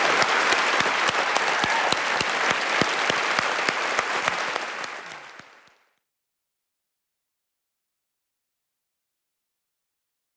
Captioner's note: applause